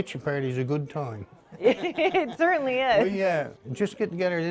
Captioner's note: chuckling